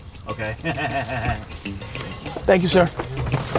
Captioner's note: laughs